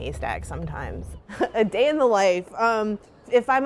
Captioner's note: laughs